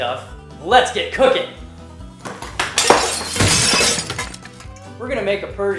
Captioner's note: crashing dishes